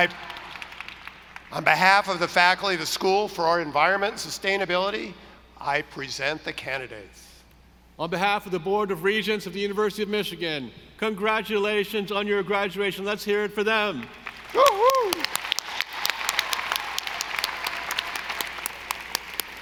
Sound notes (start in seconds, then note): 14.2 audience applauding